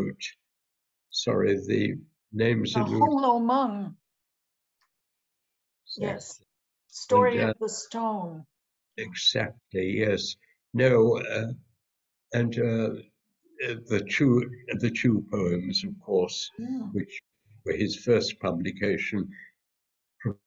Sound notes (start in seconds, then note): 2.8 non-english